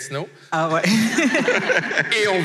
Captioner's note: laughs